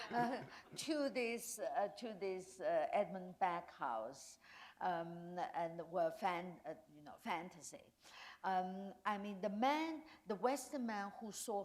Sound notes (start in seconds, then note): 0.0 chuckle